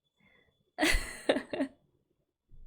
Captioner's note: laughs